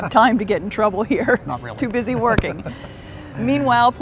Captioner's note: laughs